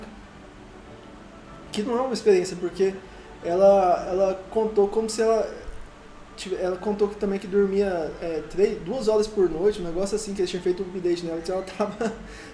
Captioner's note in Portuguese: Risos